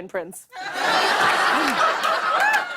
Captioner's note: laughter